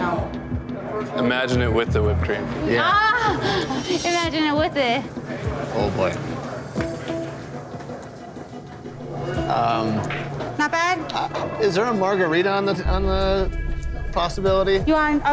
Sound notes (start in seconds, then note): 2.9 laughs; 8.6 tense music